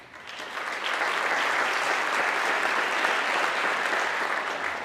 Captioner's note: audience clapping